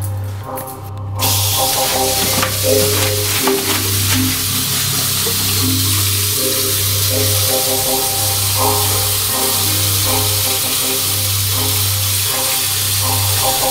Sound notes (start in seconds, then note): 1.2 water flowing